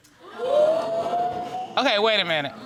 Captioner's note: crowd gasping